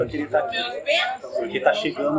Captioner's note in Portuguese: barulho da plateia se dispersando ao fundo